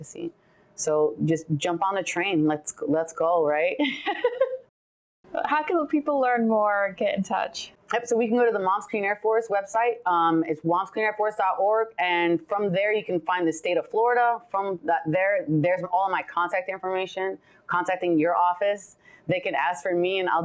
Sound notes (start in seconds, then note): 3.7 laughs